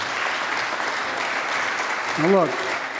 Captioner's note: applause